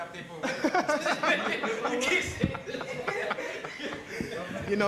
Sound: laughter

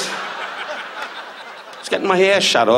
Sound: audience laughs

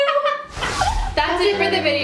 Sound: whooshing

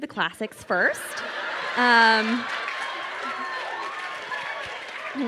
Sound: crowd cheering and applauding

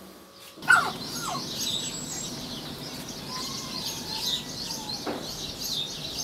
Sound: birds chirping; dog whining

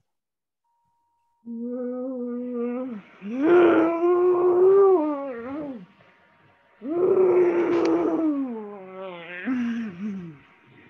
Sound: grumbling

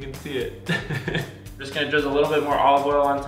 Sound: laughs

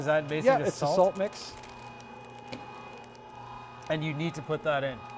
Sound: machine roaring

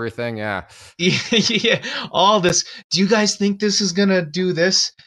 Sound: laughs

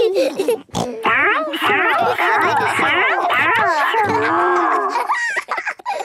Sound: snorting

